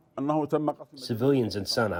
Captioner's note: through translator